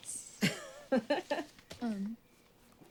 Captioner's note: Suzie laughs